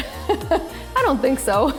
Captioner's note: laughing